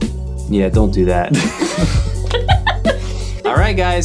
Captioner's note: group laughing